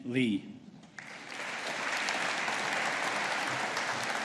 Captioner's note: audience applauding